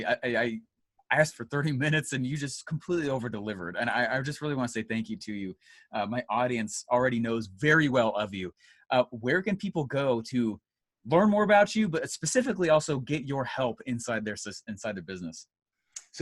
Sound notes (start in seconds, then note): none